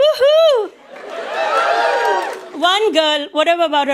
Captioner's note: audience cheers